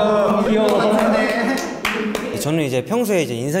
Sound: shy applause

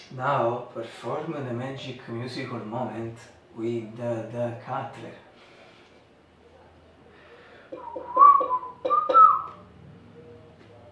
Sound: whistle

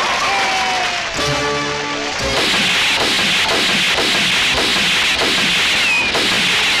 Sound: gun Firing

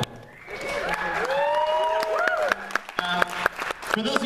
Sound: applause

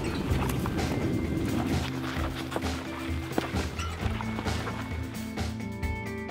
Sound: footsteps approaching; upbeat music

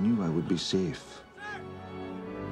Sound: sailor yells

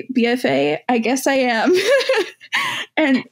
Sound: laughs

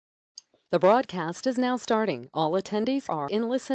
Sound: woman's Voice

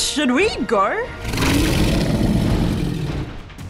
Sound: grunting

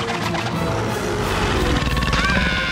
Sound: growling; screaming

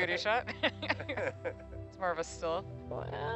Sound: laughing

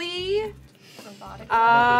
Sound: INHALE simultaneously

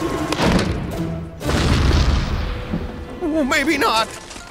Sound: explosion

